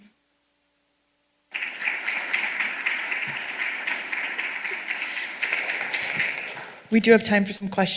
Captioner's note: applause